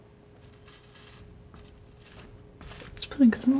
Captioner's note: tapping